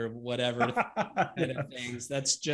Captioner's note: laughs